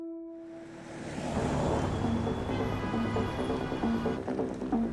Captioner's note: cars honking; uplifting music playing